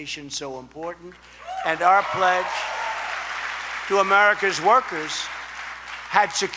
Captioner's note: applause